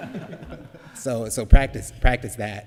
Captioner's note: laughter